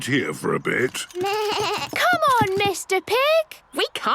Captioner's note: bleating